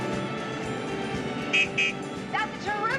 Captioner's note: honking